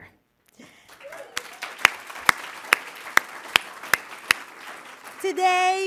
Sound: applause

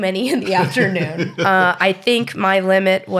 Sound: he laughs

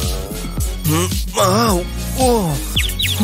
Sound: moaning

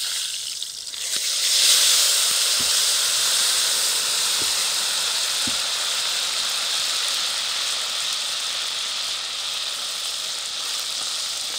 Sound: oil sizzling

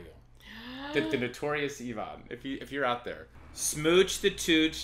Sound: gasp

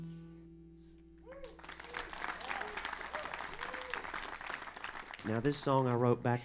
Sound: applause

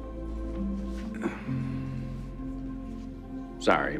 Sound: sighs softly

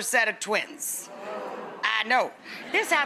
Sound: audience ohs

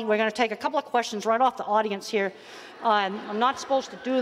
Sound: audience laughing

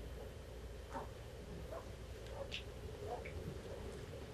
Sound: footsteps clomping

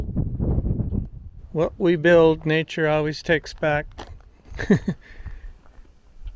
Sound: laughs

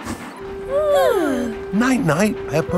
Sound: both yawning

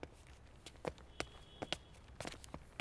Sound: footsteps

